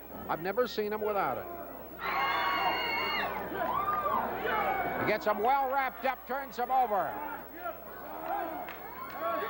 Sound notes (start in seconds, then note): 2.0 audience cheering